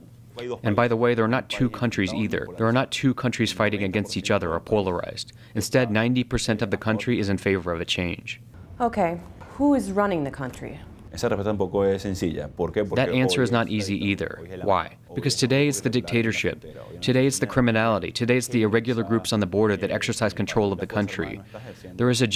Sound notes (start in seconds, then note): 11.5 through translator